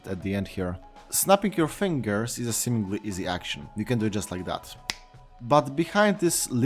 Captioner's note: snap